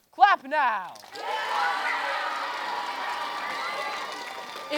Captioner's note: cheering